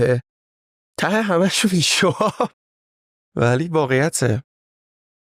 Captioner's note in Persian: خنده